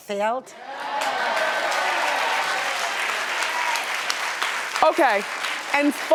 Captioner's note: audience applauding and cheering